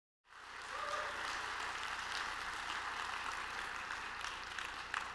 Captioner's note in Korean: 박수와 환호